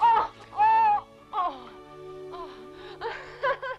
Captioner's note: Hundra shouts; Hundra groaning; Hundra laugh